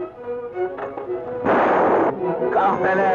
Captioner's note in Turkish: Tüfek sesi